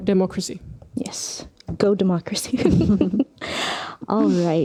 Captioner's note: naurua